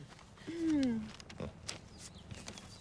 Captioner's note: Eliza clears throat